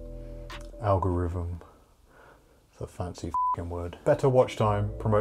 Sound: beep

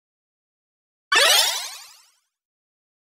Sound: sound of video game

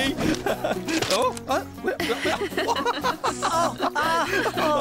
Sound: laughter

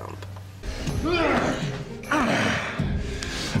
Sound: groaning

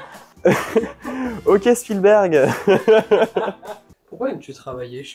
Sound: laughs

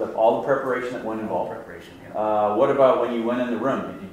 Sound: voiceover

